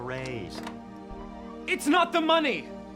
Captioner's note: gentle music continues; door clicks open